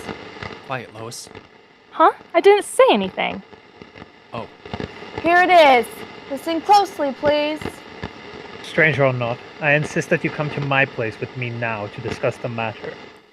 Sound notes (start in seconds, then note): 7.6 recording on radio